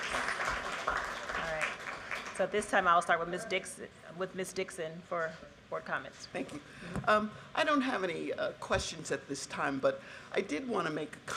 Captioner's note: cheers and applause